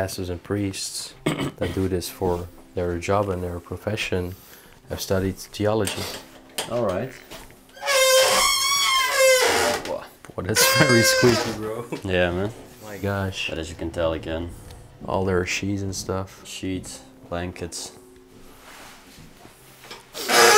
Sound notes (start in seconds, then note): 7.7 door hinges squeaking